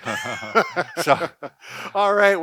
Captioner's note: laughs